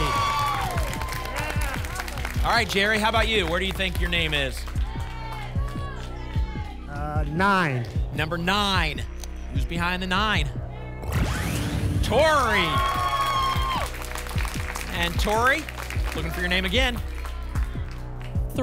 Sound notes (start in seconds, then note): 0.0 applause and cheering; 5.1 audience shouting numbers; 12.0 applause and cheering